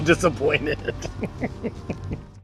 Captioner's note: laughing